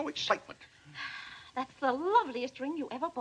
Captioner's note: sighs